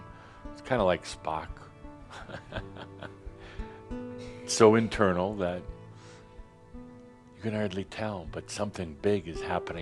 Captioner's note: Adamus chuckles